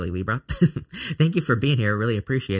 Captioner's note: laughing